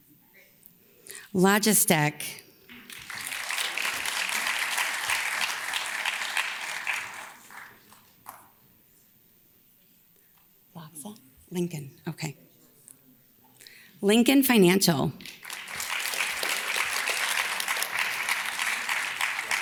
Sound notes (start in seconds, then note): 2.6 audience claps; 15.2 audience claps